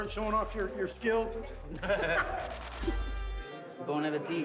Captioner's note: laughter